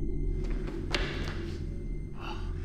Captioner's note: footsteps tapping